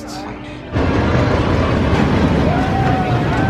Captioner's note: ride rumbling